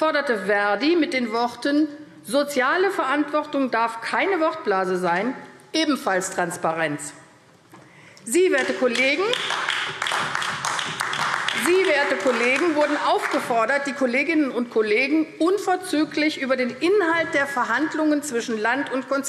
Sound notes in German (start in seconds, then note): 8.5 Beifall AfD